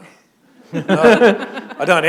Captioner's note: laughter